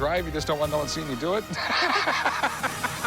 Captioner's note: laughs